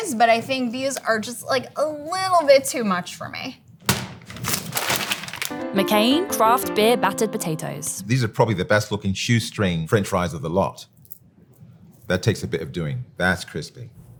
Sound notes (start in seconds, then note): 3.8 fries pack thudding; 3.9 plastic crinkling